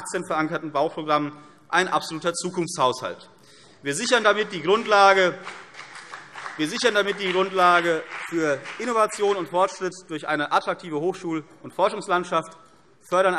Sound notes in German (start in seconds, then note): 4.0 Beifall CDU und BÜNDNIS 90/DIE GRÜNEN